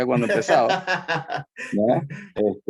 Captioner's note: laugh